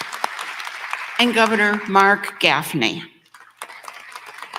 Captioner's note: applause